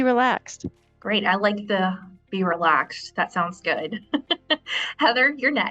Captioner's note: laughs